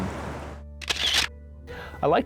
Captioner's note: sound of camera clicking